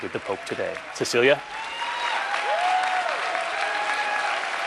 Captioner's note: applause